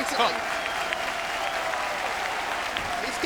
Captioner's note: crowd clapping